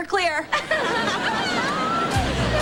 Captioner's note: both laughing